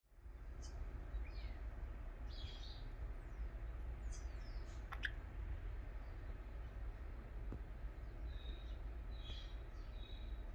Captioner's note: bird Sounds